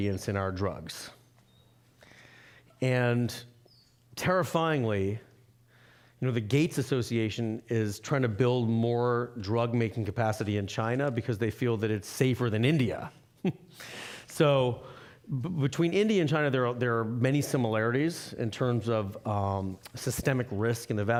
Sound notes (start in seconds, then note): 13.3 chuckling